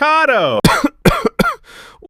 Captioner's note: coughing